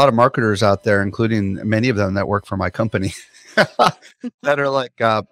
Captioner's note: chuckles